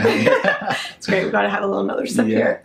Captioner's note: laughs